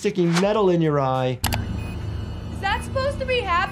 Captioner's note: machine beeps